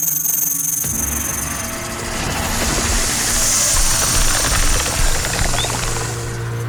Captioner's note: tense foreboding music; snake rattles; snake hisses